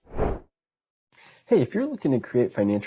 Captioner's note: logo whooshing